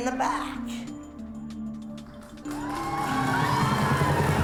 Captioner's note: cheering